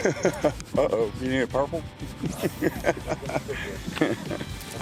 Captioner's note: man laughs; man laughing